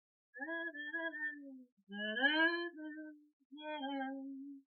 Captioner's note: humming song